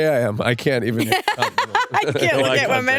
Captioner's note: laughs